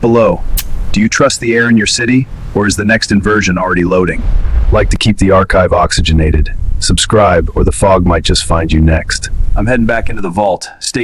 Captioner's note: sarcastic Commentary